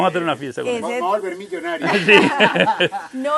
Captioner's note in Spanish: risas